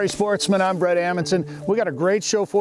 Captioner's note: graphics shuffling